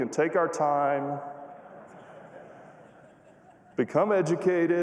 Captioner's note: laughter